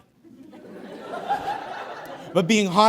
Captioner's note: audience guffaws